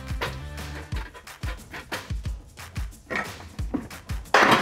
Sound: ladder creaks; part clicks; part clanks

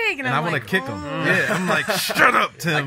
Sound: laughs

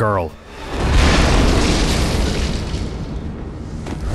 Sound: explosion

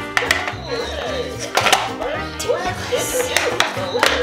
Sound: toys making sounds

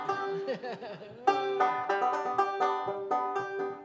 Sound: chuckling

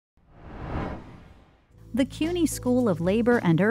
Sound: title whooshing

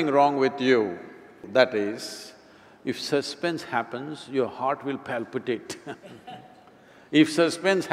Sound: laughs

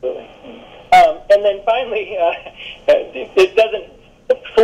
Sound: laughs

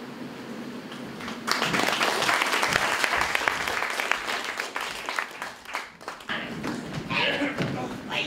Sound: audience applauds

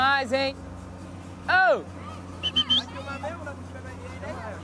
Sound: whistles

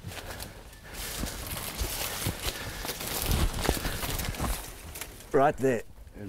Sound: footsteps through the brush

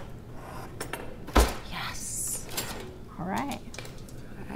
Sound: utensils clanging; drawer slams

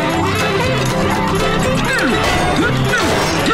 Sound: grunting

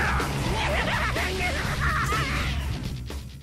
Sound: Carnage laughs maniacally

